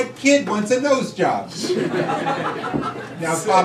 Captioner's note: crowd laughing